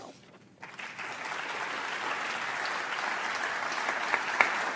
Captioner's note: audience applauds